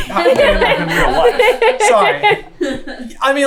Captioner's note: team laughter